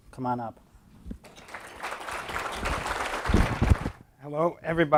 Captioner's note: applause